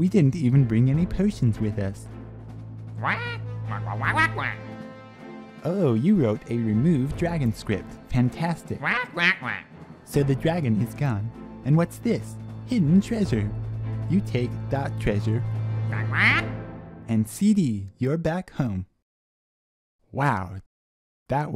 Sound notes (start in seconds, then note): 8.8 affirmative squawks; 15.9 excited squawks